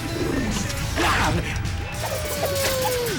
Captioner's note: rarrrr